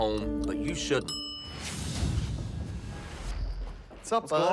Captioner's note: kitchen timer bell rings